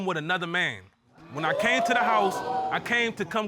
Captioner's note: audience exclaims